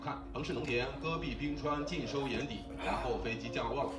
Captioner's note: the background sound of watching the movie